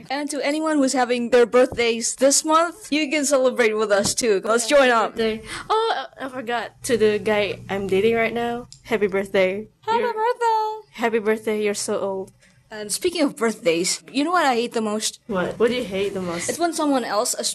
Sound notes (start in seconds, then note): none